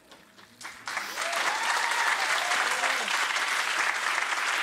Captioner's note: audience applauds